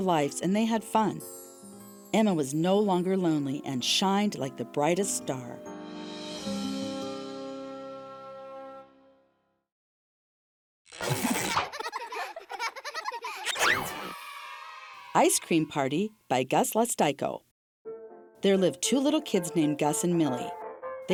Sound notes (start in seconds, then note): 5.7 warm music; 11.2 children laughing; 13.8 children cheering